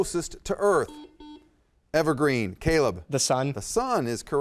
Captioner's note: buzzer dings